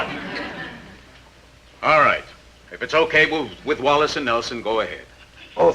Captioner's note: audience chuckling